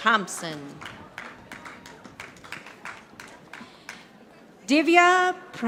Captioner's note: audience applauding